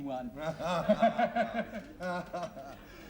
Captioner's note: both laugh